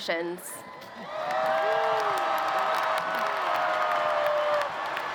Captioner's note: applause